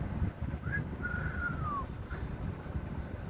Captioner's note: trying to whistle